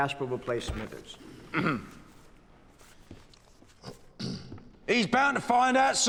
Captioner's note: clearing throat